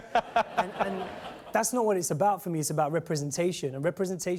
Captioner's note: laughter